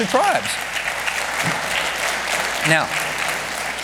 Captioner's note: congregation clapping